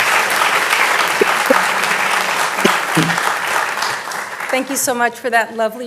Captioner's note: audience applauding